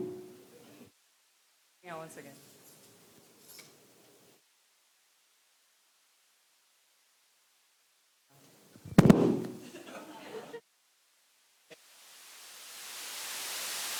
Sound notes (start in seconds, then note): 3.5 silence